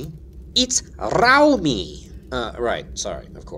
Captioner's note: rolling "R"